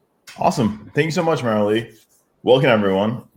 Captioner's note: pat